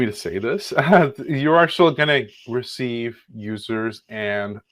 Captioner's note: laughs